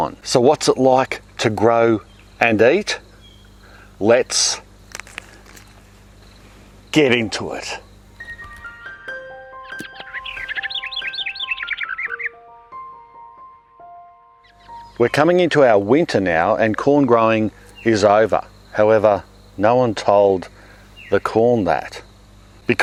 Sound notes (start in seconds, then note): 4.9 corn crackling; 8.1 slow bright music